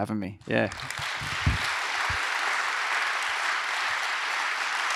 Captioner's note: audience applauds